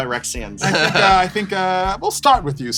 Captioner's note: laughs